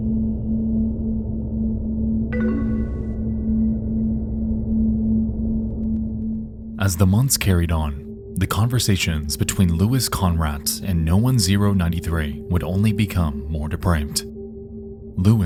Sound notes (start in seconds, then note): 2.6 computer beeps